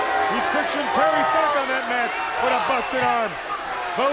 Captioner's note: crowd cheering